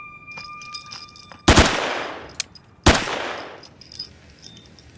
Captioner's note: gentle tense music; gun firing